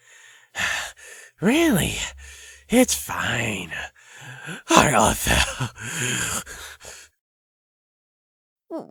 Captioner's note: exhales